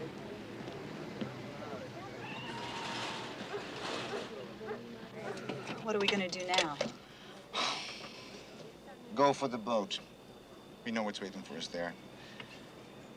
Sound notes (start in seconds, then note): 0.1 indistinct chatter; 2.1 tires screech; 7.5 sighs